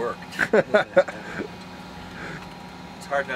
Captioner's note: chuckles